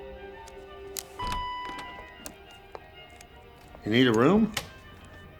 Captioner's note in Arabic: رنين جرس الباب